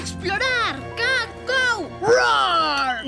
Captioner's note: bird sounds